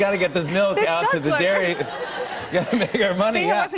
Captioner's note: laughter